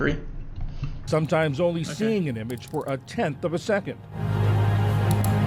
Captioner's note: voice-over